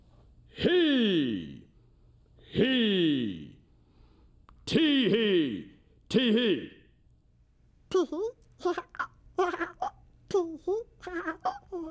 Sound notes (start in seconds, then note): 7.7 in baby voice; 9.4 giggles